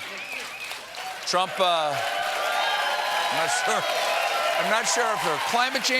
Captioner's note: applause